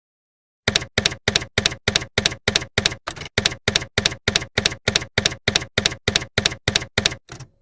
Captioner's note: typewriter keys clacking